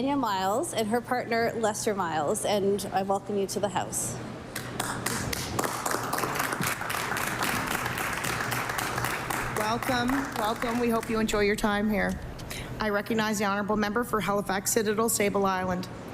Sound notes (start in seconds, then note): 11.4 applause